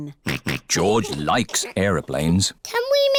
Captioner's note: snorts